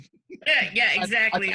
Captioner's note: giggles